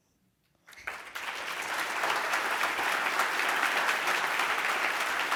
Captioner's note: applause